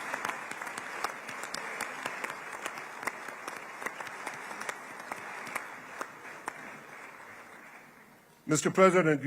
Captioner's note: applause